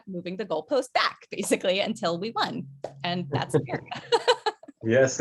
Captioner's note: laughs